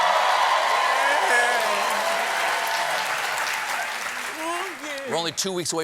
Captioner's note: cheers and applause